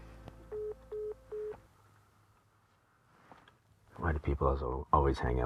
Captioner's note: line beeping